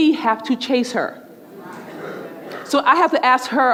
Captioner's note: murmurs